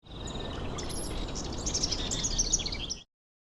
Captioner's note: birds chirping